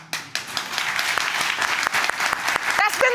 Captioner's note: audience claps